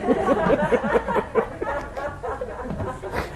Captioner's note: laughter